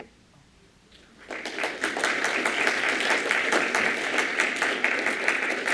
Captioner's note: applause